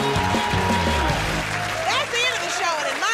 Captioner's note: cheers and applause